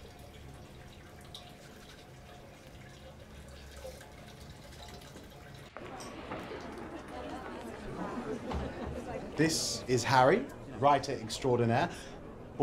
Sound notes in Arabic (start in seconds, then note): 5.7 ثرثرة